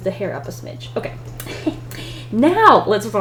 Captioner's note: laughs